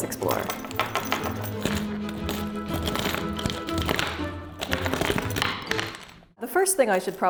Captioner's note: lively music; contents clattering